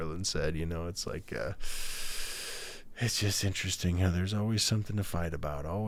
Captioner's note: inhales through teeth